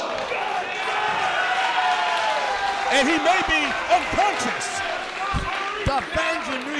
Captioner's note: applause